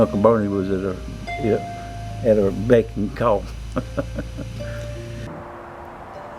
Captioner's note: laugh